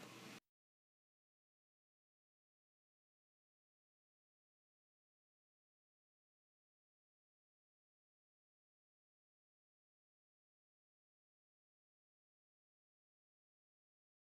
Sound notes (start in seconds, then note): 0.0 silence